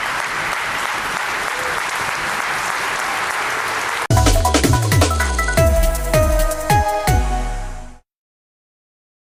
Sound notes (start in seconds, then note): 0.0 applause